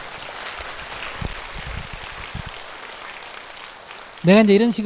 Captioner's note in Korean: 청중 박수